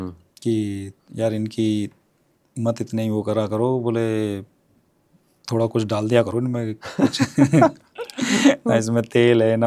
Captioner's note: laughs